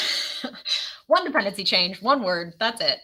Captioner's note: laughs